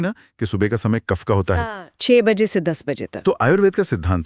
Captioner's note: phlegm